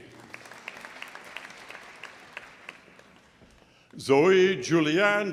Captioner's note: audience applauding